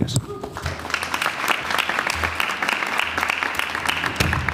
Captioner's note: applause